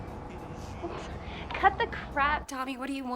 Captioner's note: Nicki scoffs